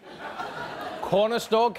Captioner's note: audience laughing